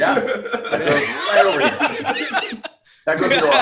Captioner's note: laughter